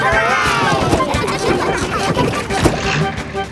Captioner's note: giggling